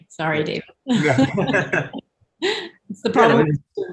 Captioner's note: panelists laugh